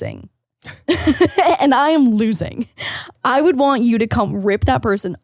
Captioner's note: laughing